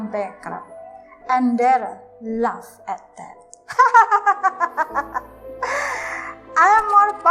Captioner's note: hahahahah